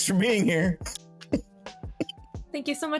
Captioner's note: laughing